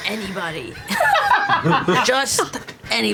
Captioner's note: laughter